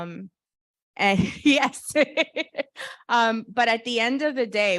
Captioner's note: laughs